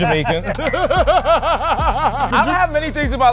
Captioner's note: laughs